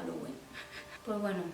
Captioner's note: uneasy laugh